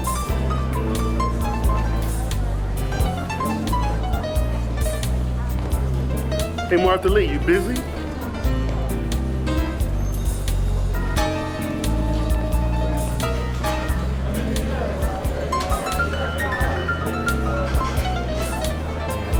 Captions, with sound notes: - Hey Martha Lee, you busy? (lively music) (people chattering)